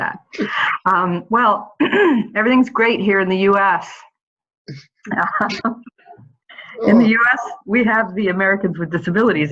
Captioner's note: laughter